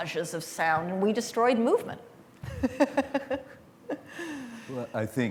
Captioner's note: laughs